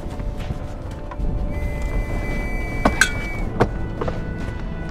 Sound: whistle blows

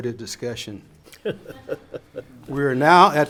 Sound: laughs

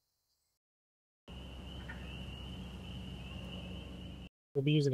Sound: nature sounds

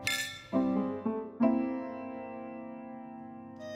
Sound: clink

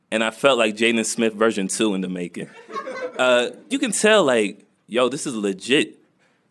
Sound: laughter

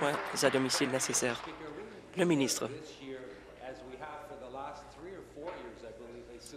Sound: applause

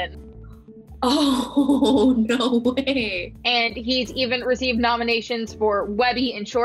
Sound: chuckles

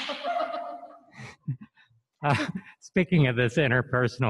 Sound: laughing

